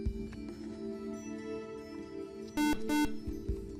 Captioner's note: buzzer